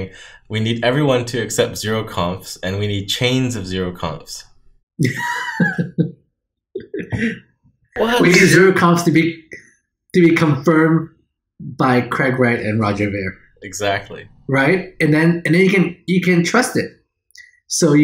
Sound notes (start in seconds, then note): 5.0 chuckles